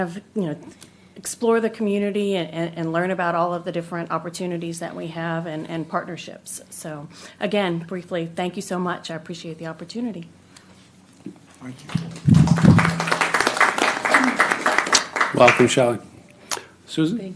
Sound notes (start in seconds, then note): 11.8 applause